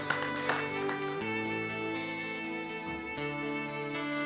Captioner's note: applause